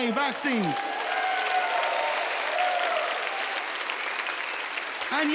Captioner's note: audience cheering